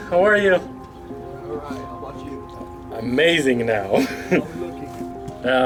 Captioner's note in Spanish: Risas